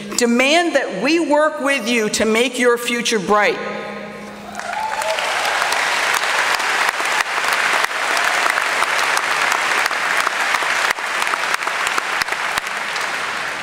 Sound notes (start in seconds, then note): 3.8 applause